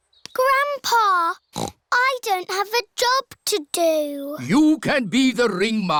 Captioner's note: snorts